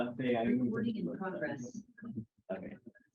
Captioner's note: computerized Voice